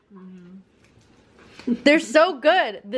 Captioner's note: giggles